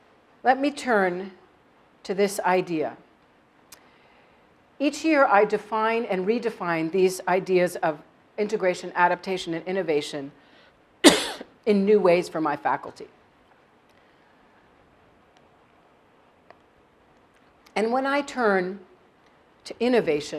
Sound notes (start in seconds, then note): 11.0 cough